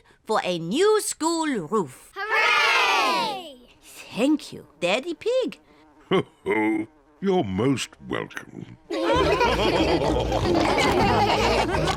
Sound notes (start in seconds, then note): 6.1 chuckles; 8.9 all laughing